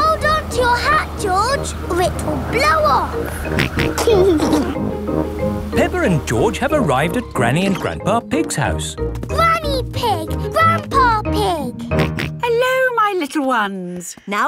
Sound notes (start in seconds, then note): 3.2 snorts and giggles; 11.9 snorts